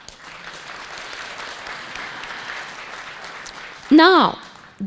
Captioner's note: audience applauding